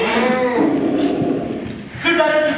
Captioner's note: dogs growling